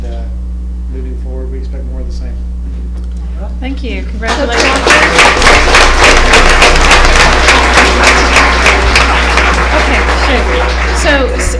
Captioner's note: applause